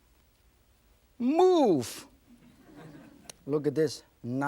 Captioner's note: audience chuckling